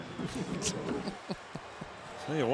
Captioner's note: laughs